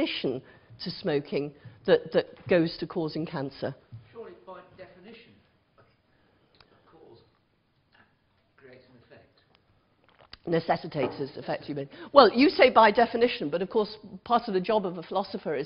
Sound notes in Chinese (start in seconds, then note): 8.0 無聲